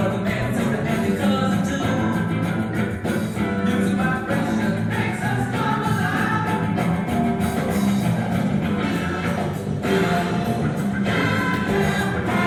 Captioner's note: radio blaring